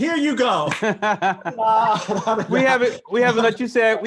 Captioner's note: all laugh